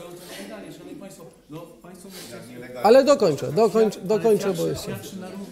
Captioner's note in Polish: głosy na sali